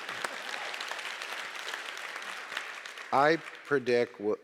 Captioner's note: audience applauding